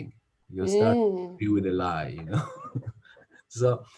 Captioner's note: chuckles